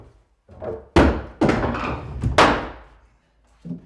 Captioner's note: wood clunks